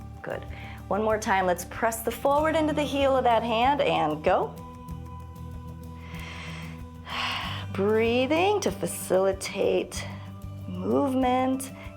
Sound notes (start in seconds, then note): 5.9 inhales and exhales